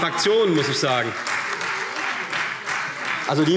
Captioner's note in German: Beifall Freie Demokraten